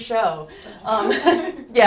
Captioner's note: laughs